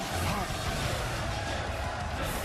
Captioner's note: chanting